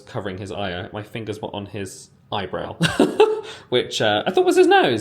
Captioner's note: giggling